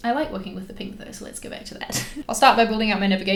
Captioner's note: laughs